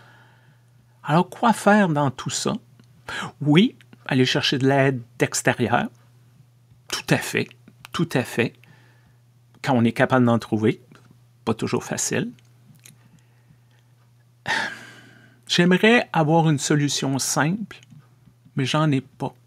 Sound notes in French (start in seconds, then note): 14.5 soupir